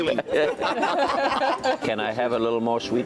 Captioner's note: laughter